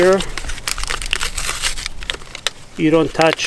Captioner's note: plastic rustles